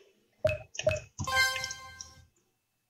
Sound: dink dink bling

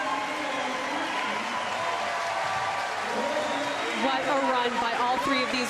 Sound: crowd cheering

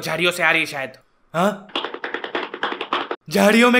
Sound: walking sound

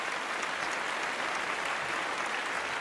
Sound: applause

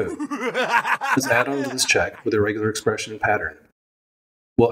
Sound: evil laugh

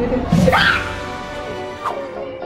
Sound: screaming; upbeat techno music

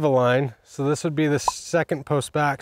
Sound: script pops

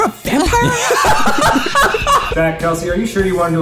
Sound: laughing

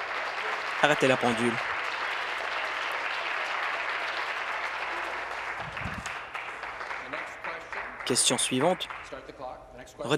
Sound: applause

